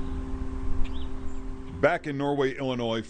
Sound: gentle music; birds chirping

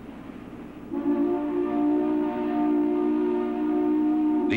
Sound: horn blowing

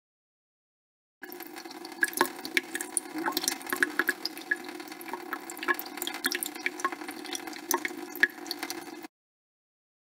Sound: sound of water drip

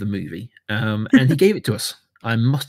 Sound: laughs

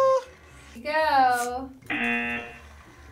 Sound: buzzer

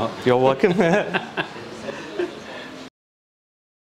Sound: laughs

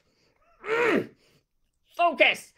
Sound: grunts

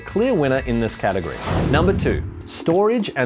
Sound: whooshing

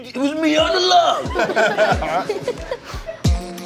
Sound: all laughing; percussive electronic music

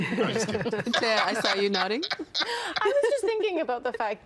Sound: all laughing

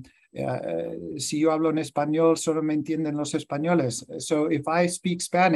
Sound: speaks in Spanish

